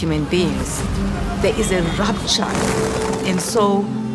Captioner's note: wings flapping